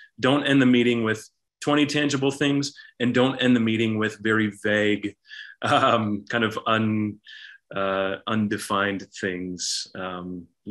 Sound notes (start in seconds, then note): 5.4 chuckles